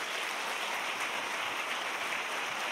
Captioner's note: applause